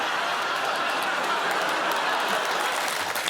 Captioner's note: laughter